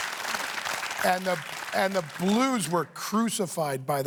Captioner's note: cheers and applause